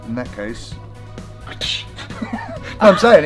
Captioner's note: slap sound